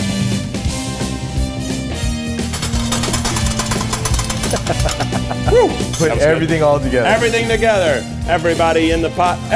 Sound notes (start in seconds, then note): 2.4 spatula rattles; 4.3 laughs